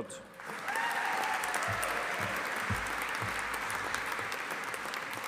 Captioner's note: audience applauding